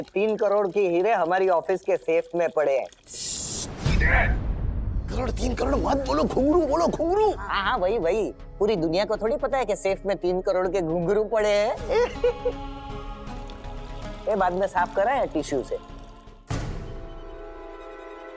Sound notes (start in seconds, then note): 11.8 laughing